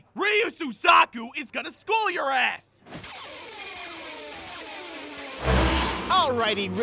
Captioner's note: none